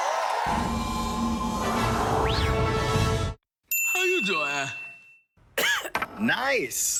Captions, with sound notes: (ding) How you doin'? (cough) - Nice.